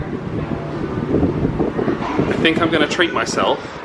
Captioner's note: wind blustering